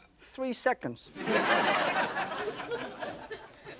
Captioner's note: laughter